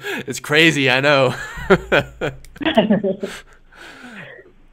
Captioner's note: laughs